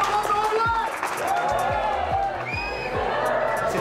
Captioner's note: shouts and applause; crowd